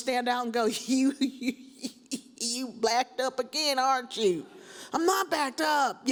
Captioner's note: laughs